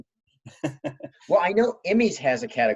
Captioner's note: chuckling